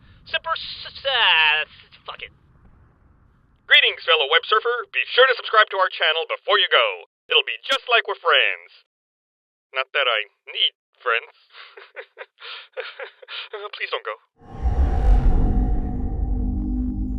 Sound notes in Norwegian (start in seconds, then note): 11.5 Pinlig latter